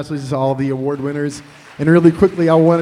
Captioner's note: applause